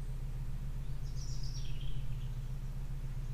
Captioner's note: birds singing